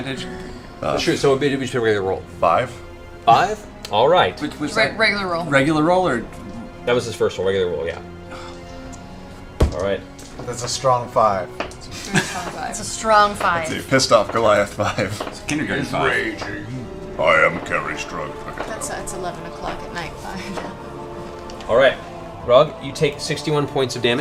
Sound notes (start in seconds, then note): 15.9 laughs